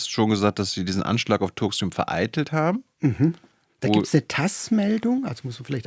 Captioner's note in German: räuspern